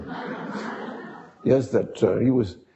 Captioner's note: audience laughing